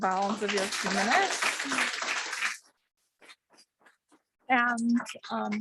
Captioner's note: audience clapping